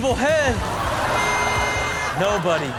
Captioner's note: horn honks